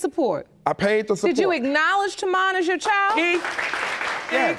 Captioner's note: applause